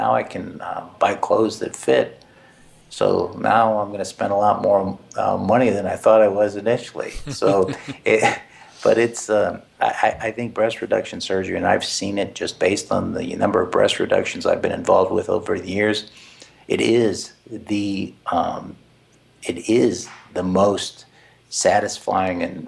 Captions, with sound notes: can buy clothes that fit so now I'm going to spend a lot more money than I thought I was initially (laugh) so, it but it's a I think breast reduction surgery and I've seen it just based on the number of breast reductions I've been involved with over the years it is the it is the most satisfying and